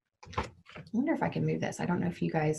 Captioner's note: object thudding